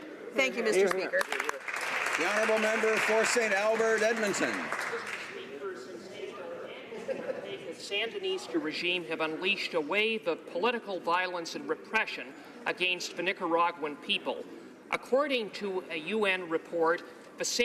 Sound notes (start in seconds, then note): 4.5 some Applause